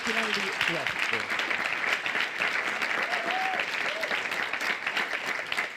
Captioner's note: audience clapping